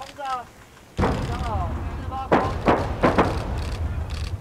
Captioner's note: gunshots